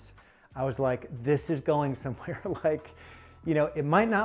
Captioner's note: chuckles